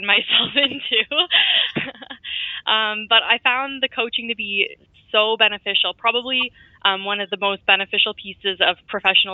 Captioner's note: chuckle